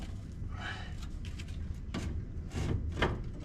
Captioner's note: sigh